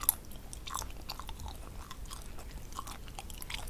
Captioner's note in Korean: 냠냠